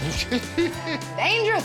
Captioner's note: laughing